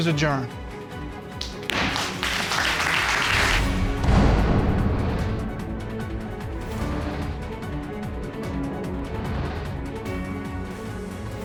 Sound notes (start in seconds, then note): 0.3 gavel bangs; 3.0 audience applauding